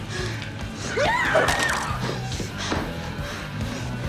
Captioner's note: yells